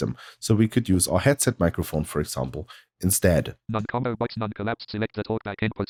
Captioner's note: automated voice